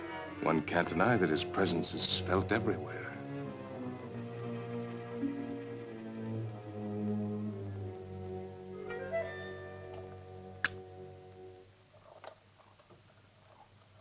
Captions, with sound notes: One can't deny that his presence is felt everywhere. (eerie music) (phonograph clicks) (phonograph whirring)